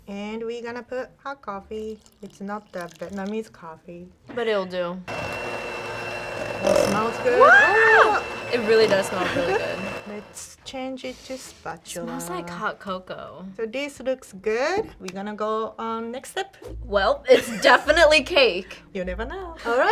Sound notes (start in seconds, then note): 5.0 mixer whirs; 7.0 screams